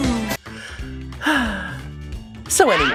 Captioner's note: whistful sigh